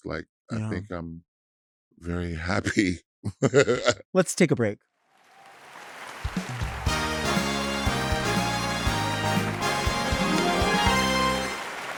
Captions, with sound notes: Like I think I'm very happy. (chuckling) - Let's take a break. (audience applauding) (lively music)